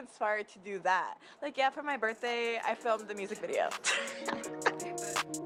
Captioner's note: laughs